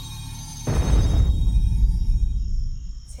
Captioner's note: booming thud